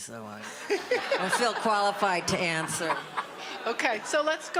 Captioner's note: audience laughter